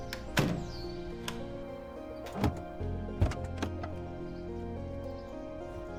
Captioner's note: birds chirping; upbeat, dramatic music; door clatters; upbeat, dramatic music